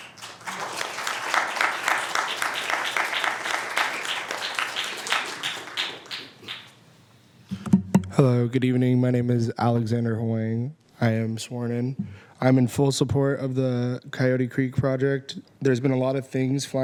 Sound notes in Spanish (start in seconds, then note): 2.8 aplausos